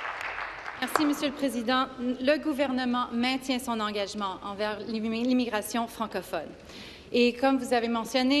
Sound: applause

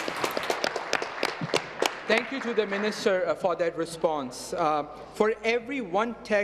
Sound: applause

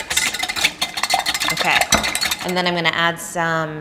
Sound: vigorous whisking

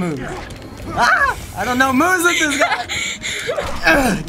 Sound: giggling

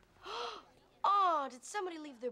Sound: gasps

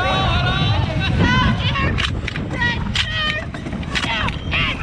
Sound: indiscernible chatter

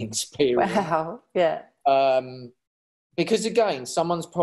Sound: chuckles; chuckles

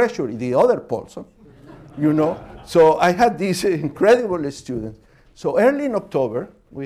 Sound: laughter

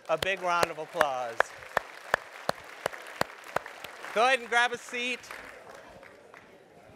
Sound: applause

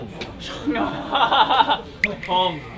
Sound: laughing

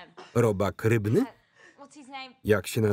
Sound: laughter

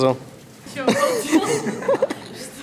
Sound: laughs

